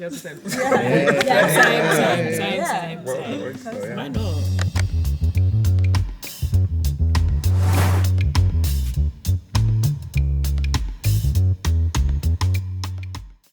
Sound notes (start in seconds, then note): 5.5 upbeat music; 7.3 air whooshing; 7.6 upbeat music continues